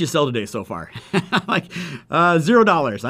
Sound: laughs

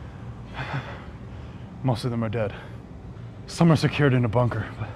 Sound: exhales

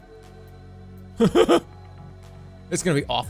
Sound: stoned giggling

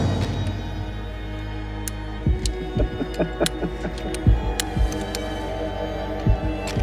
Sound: dramatic fanfare; suspenseful music; Hicks chuckles

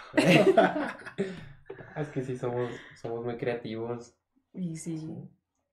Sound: laughter

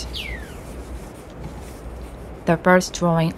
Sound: the pencil sounds fade out and the forest ambience continues

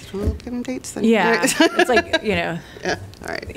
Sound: laughter

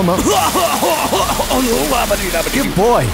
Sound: wierd vomitting sounds

